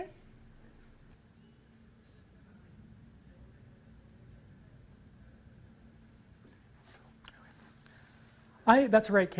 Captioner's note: silence